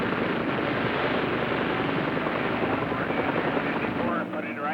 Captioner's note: gun firing and explosions